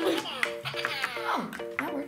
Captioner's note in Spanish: risas